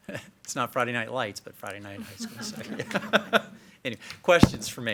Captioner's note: laughs